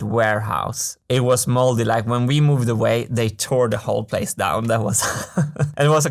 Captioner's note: laughs